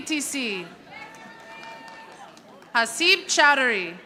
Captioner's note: audience applauding